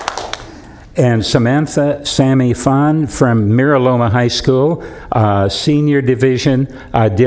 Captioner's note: applause